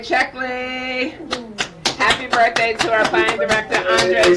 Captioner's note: claps